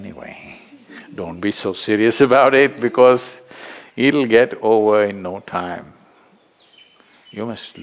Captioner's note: laughs